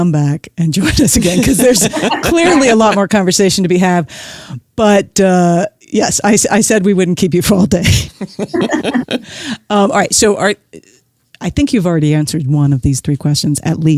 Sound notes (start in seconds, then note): 8.2 guffaw